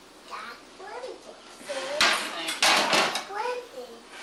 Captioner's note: clattering of dishes